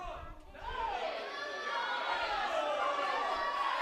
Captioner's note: crowd boos